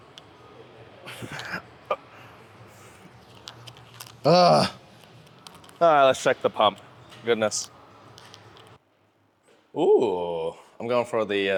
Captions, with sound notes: [LAUGH] Let's check the pump. Goodness. Ooh, I'm going for the